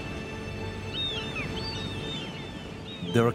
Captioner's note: seagulls squawking